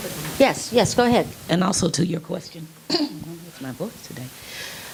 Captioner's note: clearing throat